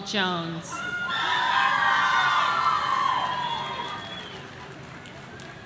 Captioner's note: audience cheering